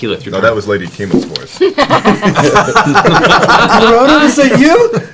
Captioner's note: laughter